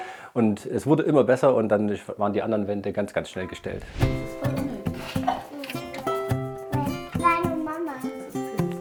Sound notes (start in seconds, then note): 3.5 harmonious music; 6.3 soft children's chatter